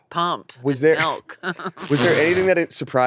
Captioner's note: laughs